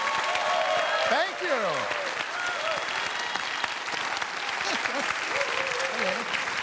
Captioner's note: cheers and applause; chuckles